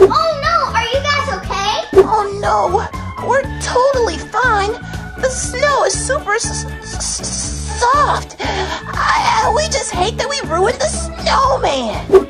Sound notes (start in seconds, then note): 6.9 stuttering